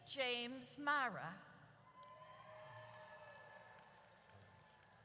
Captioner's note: audience cheers